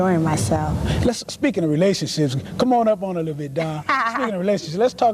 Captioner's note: laughter